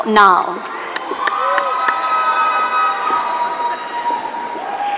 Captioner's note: audience cheering